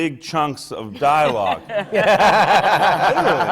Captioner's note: laughter from the panel